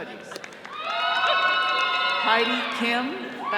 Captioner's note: all cheering